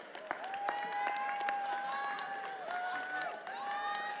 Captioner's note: attendees applauding